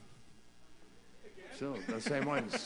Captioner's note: laughter